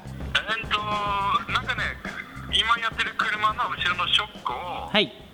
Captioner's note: Japanese speech through phone's speakers